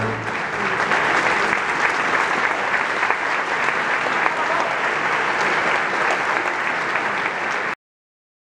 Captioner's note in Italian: applauso